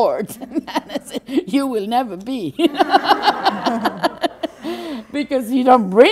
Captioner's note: general laughter